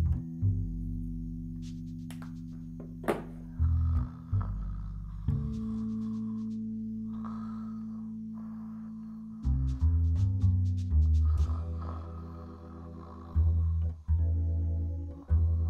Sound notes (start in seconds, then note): 3.5 Kim snoring